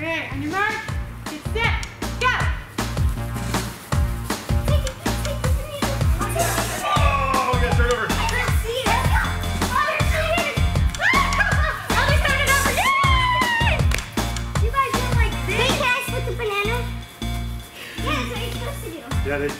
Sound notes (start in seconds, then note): 3.0 playful music; 12.7 cheering